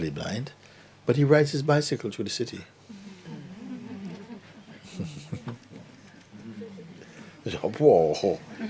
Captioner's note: laughter